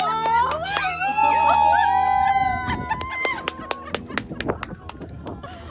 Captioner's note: screams; crowd screaming and clapping